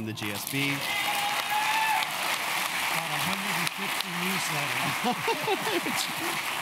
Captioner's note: applause